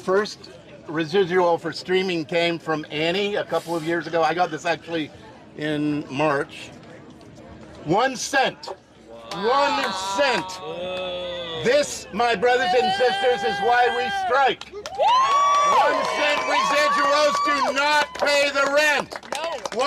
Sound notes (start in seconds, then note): 15.0 cheering and applause